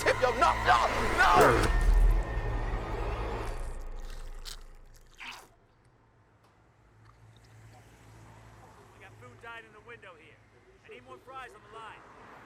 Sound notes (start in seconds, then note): 2.5 intense music; 3.7 ketchup squirting